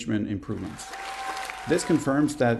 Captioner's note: applause